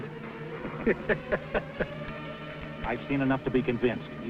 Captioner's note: chuckling